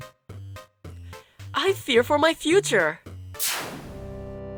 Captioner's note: ironically chipper